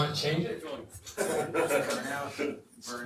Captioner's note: laughs